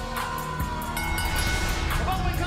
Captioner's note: bell ringing